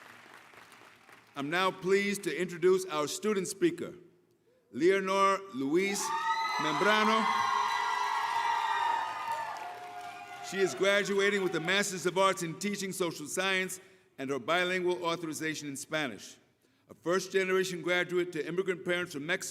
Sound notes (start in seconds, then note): 0.0 applause; 7.3 cheering